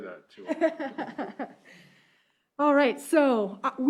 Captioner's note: chuckling